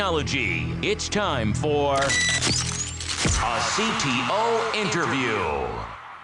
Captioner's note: beeping